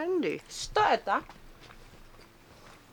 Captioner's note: in Russian